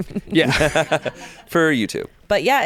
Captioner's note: everyone laughs